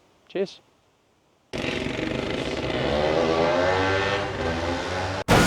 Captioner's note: engine revving